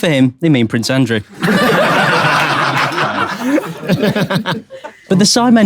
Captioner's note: people in room laughing